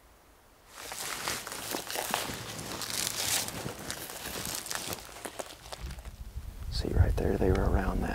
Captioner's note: walking